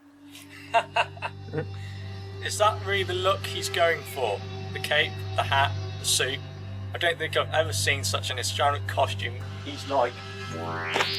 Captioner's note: laughing